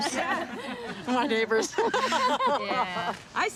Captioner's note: laughter